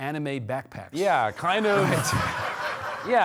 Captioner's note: audience laughing